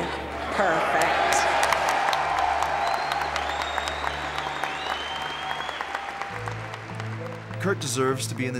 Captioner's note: applause